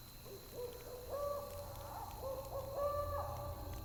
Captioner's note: bird crowing